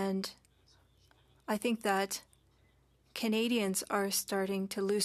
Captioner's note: speaking French